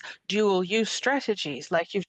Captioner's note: speaking French